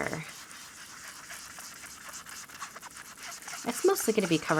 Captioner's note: blending tool scrubbing